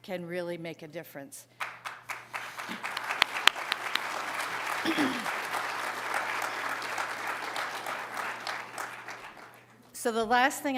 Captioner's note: applause